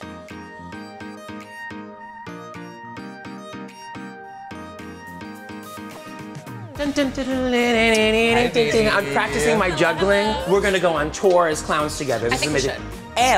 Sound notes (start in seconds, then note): 7.3 hums circus music